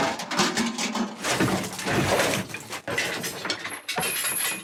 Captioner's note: clang!; debris clatters